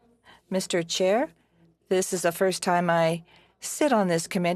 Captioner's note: speaking French